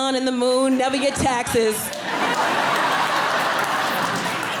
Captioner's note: audience laughing